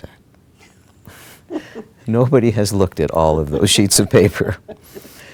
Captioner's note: laugher